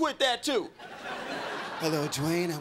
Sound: crowd laughing

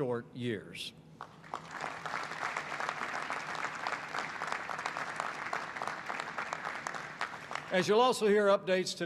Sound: applause

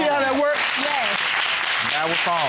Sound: audience applauding

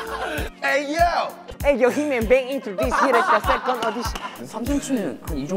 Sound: laugh; laugh

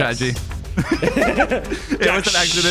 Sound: people laughing

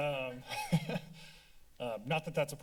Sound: laugh

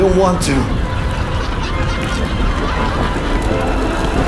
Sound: audience laughing

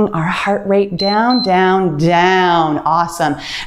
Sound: timer beeps

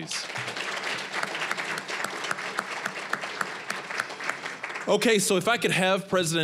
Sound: applause

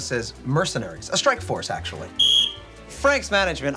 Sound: whistle blows

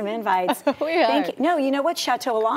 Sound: laughter

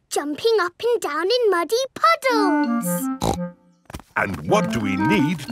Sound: snorts

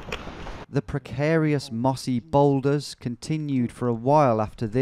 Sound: voiceover

